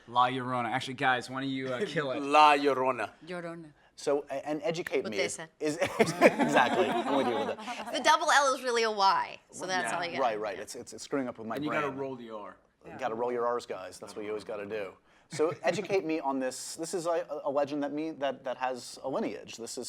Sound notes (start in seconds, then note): 2.4 laughs; 5.8 group laughs